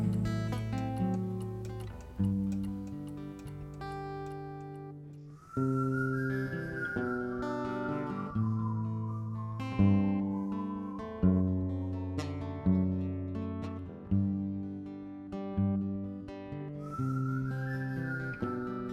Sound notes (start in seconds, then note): 5.3 whistling